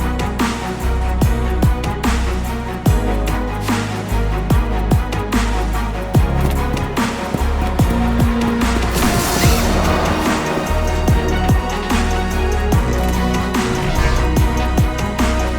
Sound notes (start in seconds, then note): 6.1 footsteps tapping; 8.4 zipper squeals